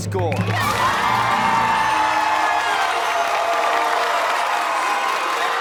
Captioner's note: cheers and applause